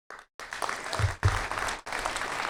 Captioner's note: applause